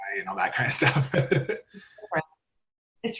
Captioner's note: laughs